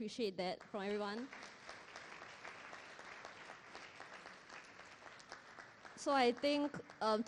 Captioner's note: applause